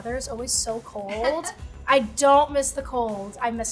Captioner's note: laughing